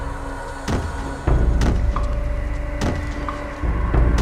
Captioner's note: blows land